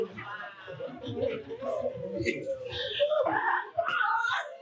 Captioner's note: audience laughing